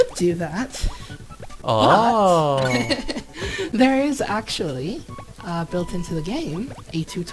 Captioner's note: laughs